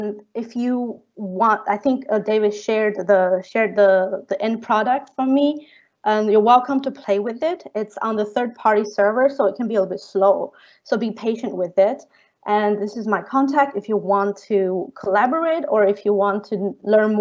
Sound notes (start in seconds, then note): none